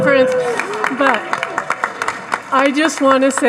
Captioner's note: audience laughing and applauding